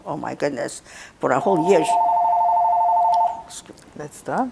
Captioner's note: phone ringing